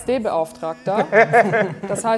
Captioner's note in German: Lachen